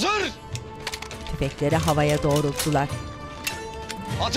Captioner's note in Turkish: Silah mekanizma sesi